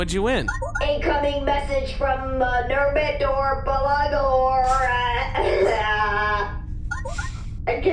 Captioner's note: incoming transmission sound; beep of comms link being established